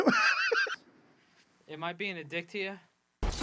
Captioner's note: laughing